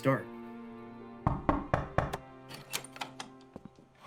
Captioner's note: knock on door